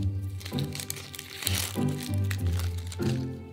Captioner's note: onion paper rustling